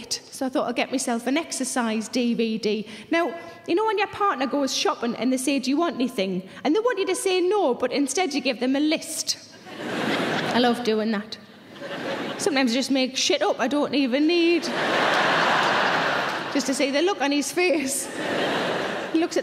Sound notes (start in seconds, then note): 9.6 audience laughing; 15.0 audience applauding